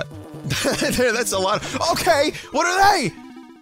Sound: laughs

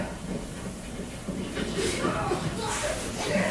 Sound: none

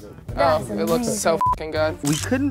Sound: beep

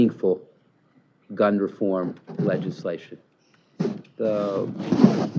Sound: shuffling

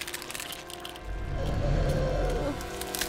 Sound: groaning

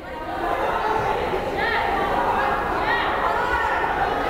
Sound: crowd chattering

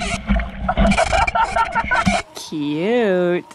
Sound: laughs

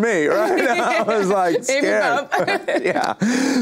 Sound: laughs

